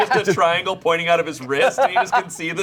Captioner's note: laughing